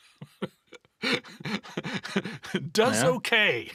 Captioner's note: laughter